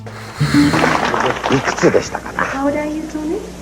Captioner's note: crowd clapping